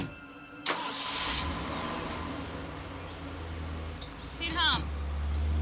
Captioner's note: engine whirs